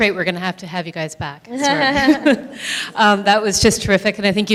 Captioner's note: laughs